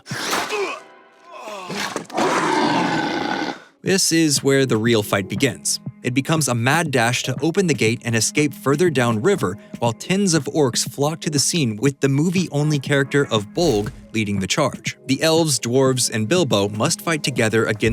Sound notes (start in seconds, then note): 1.3 grunt; 1.6 roar